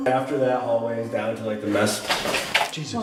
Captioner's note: door opening